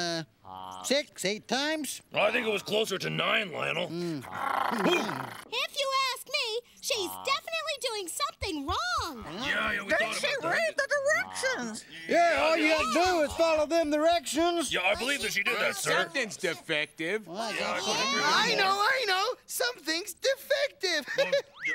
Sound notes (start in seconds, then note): 4.1 growling